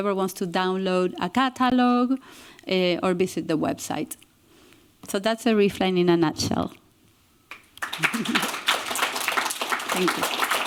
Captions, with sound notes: wants to download a catalog or visit the website. So that's the ReefLine in a nutshell. [APPLAUSE] Thank you.